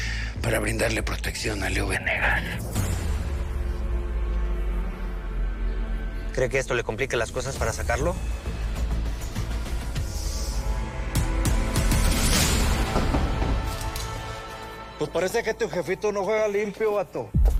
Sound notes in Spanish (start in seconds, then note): 12.4 Portazo